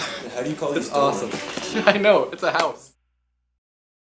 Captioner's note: both laugh; music fades